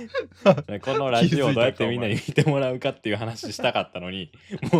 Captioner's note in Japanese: 笑い